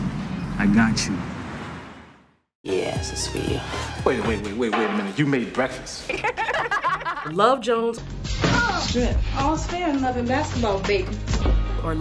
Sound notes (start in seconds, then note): 6.0 laughter